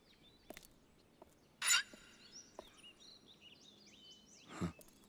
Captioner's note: swing creaking